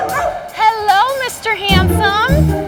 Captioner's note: dog barks